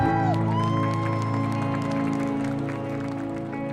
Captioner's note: applause